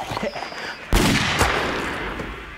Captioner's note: gun fires